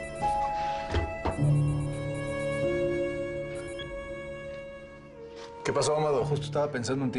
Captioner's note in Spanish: Suena el celular